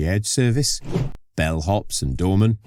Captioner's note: whoosh